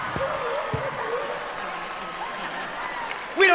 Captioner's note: audience cheering